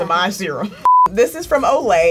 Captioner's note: beep